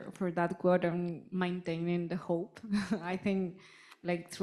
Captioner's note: chuckling